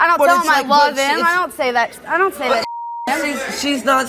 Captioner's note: beep